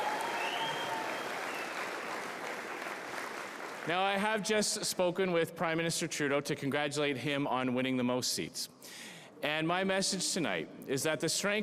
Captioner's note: applause